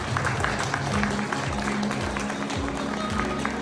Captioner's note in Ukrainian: оплески